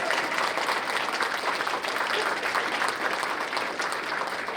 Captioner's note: cheers and applause